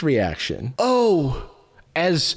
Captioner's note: echoing